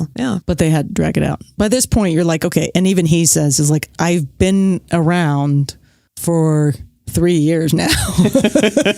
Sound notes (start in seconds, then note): 7.9 guffaw